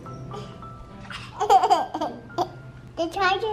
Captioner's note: laughing happily